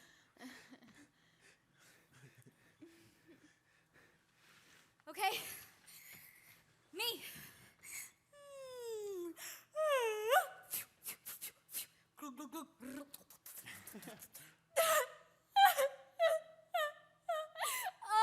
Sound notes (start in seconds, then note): 9.7 performer yawns; 15.6 performer sobs